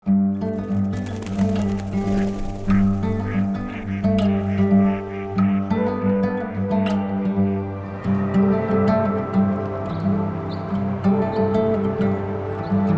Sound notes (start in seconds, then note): 0.3 light folk music; 0.6 ducks quacking and flying; 9.6 birdsong